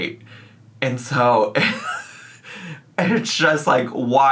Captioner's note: laughs